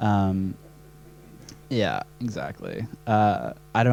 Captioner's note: laughs